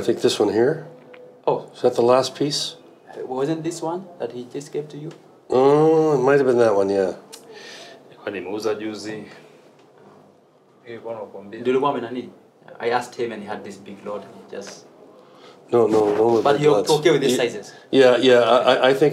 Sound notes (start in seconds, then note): 7.1 speak Swahili